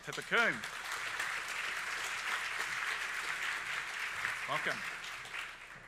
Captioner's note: audience applauding